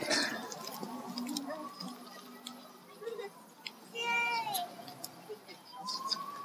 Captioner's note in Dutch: children playing in background